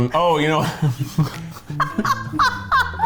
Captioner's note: laughs